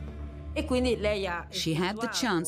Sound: speaking in Italian

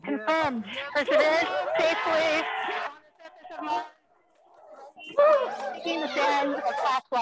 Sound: scientists cheering

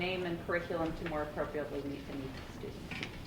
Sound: faintly speaking

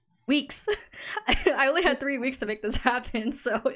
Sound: laughs

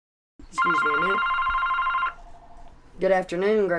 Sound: telephone ringing

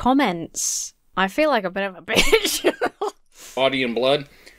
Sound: laughs

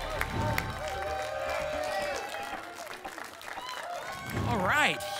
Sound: applause and cheering cont

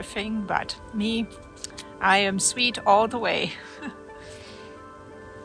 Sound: laughs

